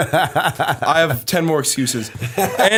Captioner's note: laughter